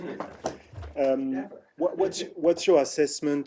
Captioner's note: laughter